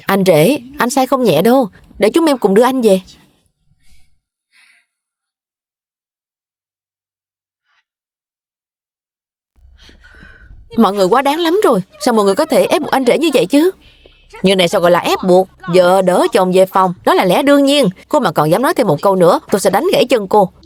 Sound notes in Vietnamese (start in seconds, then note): 9.7 thở dài